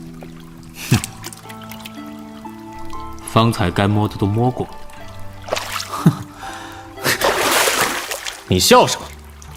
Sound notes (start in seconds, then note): 5.9 laughs derisively